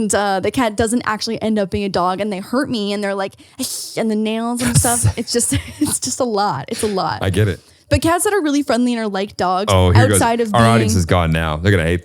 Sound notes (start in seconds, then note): 3.4 hisses